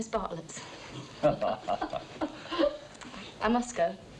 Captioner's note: all chuckling